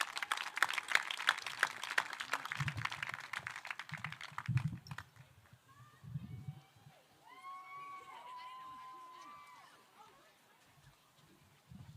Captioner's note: applause